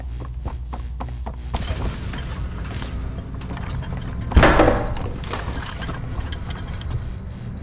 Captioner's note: footsteps; door slams